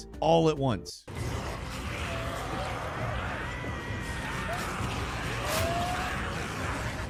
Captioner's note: suspenseful music; zombies growl